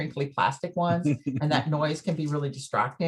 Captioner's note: chuckles